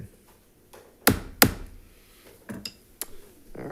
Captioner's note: gavel thudding